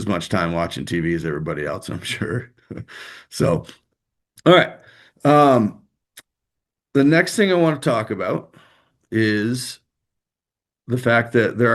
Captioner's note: laughter